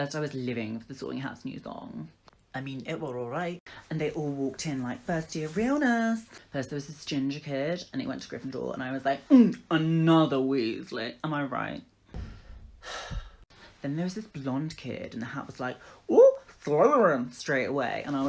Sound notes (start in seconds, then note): 12.8 sigh